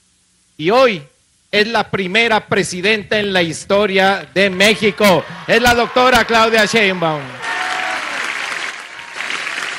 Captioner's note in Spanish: aplausos